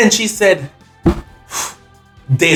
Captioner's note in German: atmet tief und wie beunruhigt aus